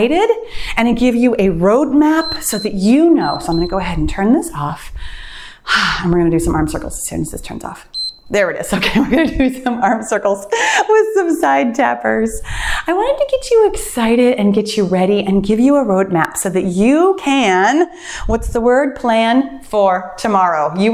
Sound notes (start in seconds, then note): 2.1 timer beeps; 7.9 timer beeps; 9.6 laughs